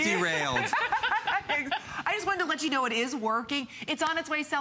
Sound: laughter

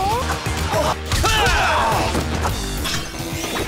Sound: groaning

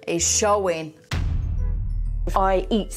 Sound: explosion booming

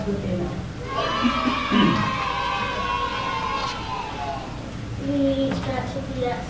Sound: cheering

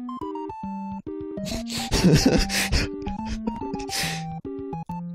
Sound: laughs

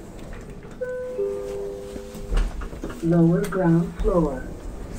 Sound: chime

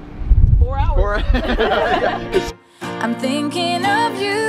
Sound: both laughting

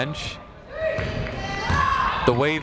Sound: people shouting in the crowd

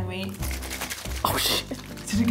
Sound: sloshing

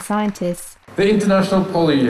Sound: speech in English

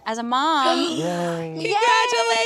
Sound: gasps

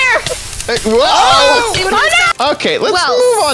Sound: commotion

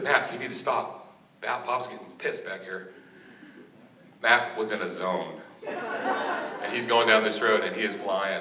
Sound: laughter

